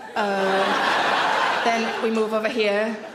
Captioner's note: audience laughs